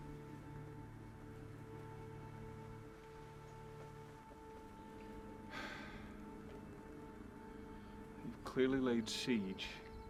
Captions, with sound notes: (tense music) (Graham sighs) - You've clearly laid siege.